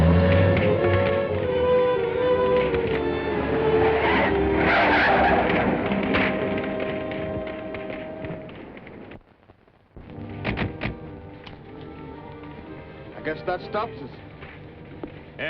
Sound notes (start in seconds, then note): 0.2 flames crackling; 3.6 tires screeching; 10.1 dramatic music